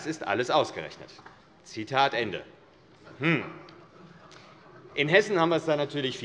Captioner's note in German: Heiterkeit AfD